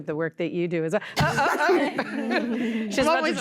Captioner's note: laughter